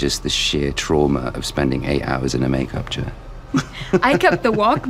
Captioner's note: laughs